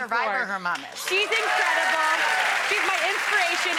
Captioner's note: audience cheers